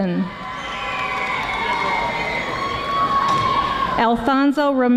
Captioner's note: audience applauding